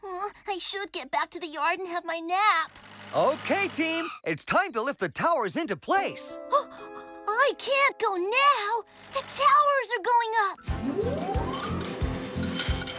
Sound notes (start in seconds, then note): 6.6 gasps